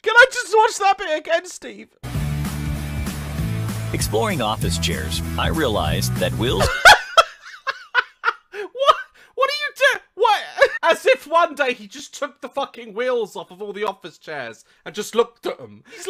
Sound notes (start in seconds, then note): 6.4 cutting him off with his contagious laughing